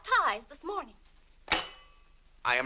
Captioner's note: silverware slams